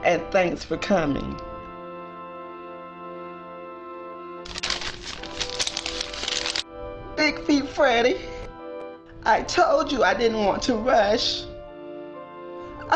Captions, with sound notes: And thanks for coming. (paper rustling) Big Feet Freddie, I told you I didn't want to rush.